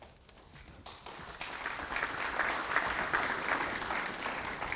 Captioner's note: applause